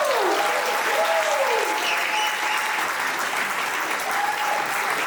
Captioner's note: audience applauding